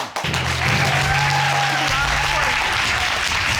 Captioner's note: audience applauding